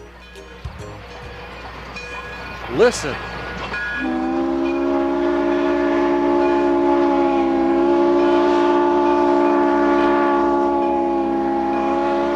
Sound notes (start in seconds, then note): 0.0 crossing bells dinging; 3.7 train whistles